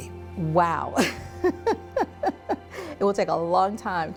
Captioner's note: laughing